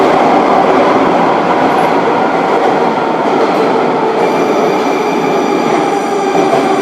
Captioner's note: braking - arrival at the station